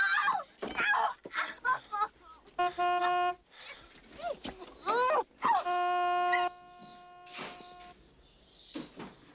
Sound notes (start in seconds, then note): 2.5 honking; 5.4 honk; 5.4 honking